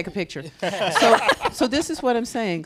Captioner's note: panelists laughing